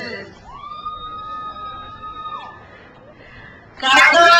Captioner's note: crowd cheers